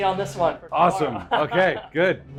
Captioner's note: laughing